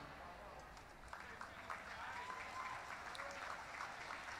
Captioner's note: applause